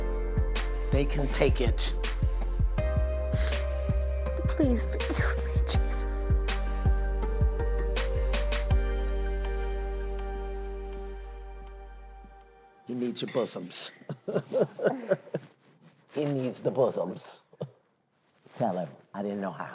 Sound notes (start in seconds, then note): 3.4 sniffling; 14.0 chuckles